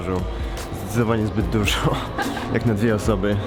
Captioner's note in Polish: śmiech